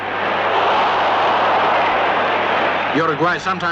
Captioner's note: crowd groan